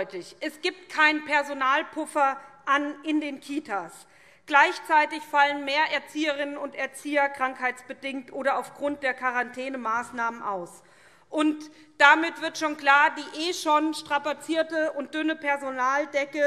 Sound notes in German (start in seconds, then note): none